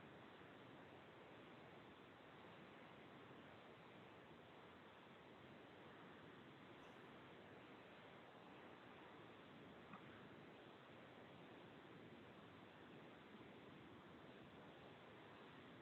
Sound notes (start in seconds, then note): none